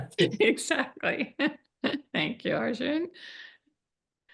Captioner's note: laughs